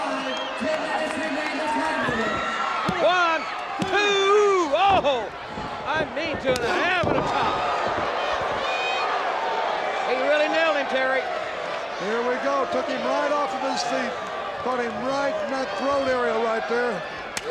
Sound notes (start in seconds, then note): 3.8 countdown thudding; 7.0 Sting thudding on ring; 7.0 chop striking